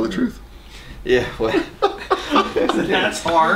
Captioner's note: laughing